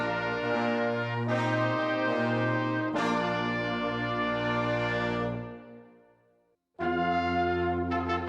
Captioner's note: none